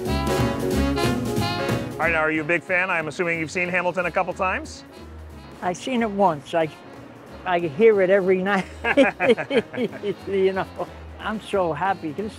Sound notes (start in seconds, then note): 8.5 both laughing